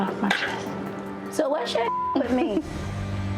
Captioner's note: beep